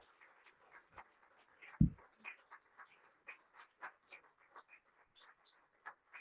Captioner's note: applause